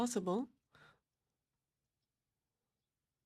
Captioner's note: speaking French